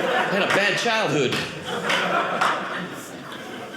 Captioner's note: audience laughing